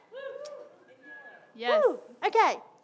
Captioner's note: scattered cheering from audience